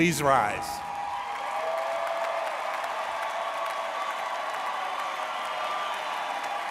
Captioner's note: audience cheering and applauding